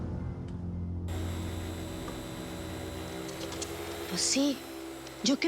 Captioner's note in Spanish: ruido de la aspiradora